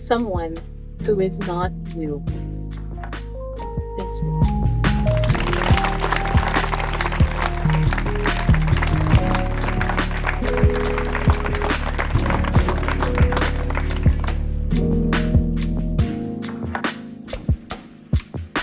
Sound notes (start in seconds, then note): 5.0 applause